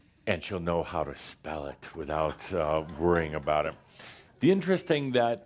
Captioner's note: a few chuckles